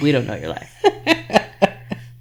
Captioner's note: laughing